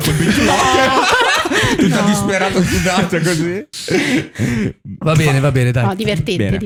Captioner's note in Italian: laughter